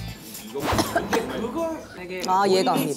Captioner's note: cough